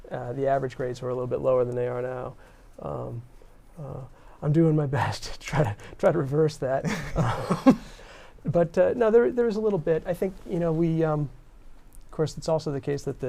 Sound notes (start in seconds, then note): 6.8 laughter